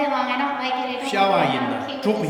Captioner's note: speaking tibetan